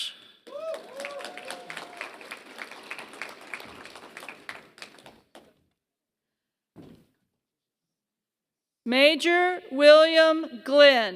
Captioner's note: applause